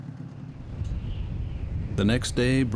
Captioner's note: wind whistling